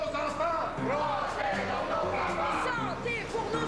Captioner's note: Tous scandent